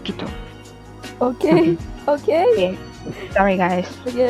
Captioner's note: giggles